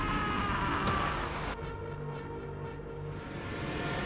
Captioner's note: screaming intensifies; soldier screams